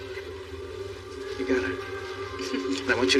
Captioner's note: Jennifer r chuckles